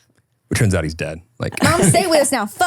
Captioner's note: laughing